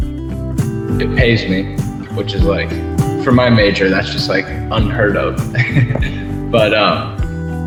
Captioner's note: chuckle